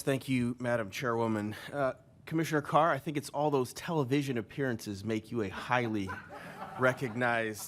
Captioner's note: laughter